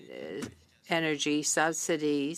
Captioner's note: speaking in French